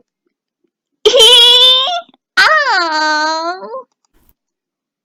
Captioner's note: giggles